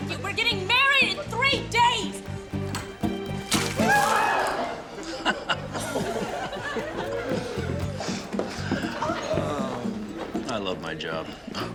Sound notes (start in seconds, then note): 4.6 laughter